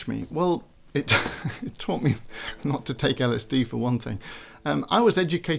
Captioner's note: laughs